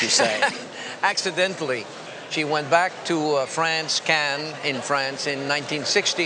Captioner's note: laughing